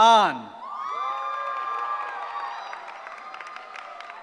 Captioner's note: cheering